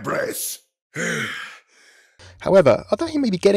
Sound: sighs; voiceover

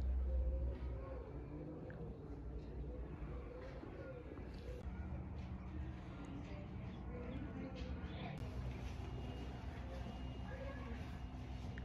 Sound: sound of birds chirping and faint traffic

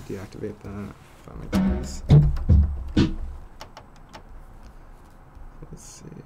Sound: sound effect

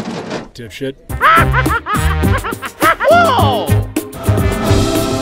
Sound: laughing

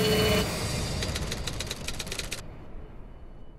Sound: typewriter keys click

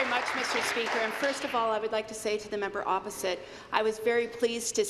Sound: applause

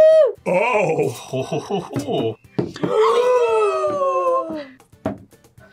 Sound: both gasp

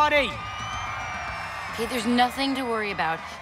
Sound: audience cheering

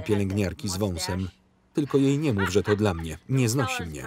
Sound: laughing

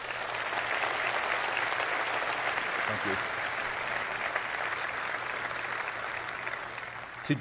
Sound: applause

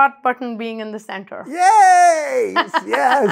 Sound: laughs

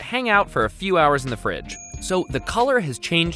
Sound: bell dings

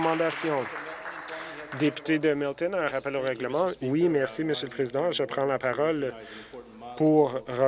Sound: applause

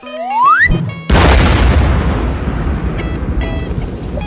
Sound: boom

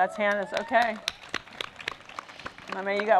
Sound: applause

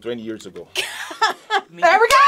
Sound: React laughs

